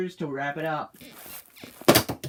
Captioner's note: bed squeaks